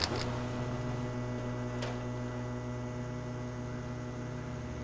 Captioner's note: electricity humming